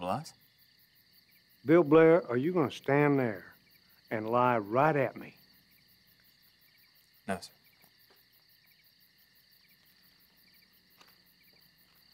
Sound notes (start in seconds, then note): none